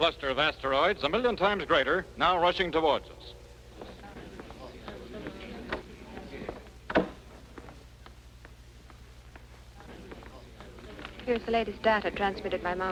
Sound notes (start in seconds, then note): 3.7 crowd murmuring